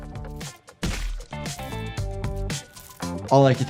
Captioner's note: liquid squelches